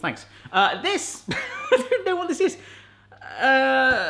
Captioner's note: laughs